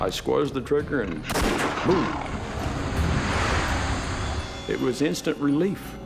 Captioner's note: gun fires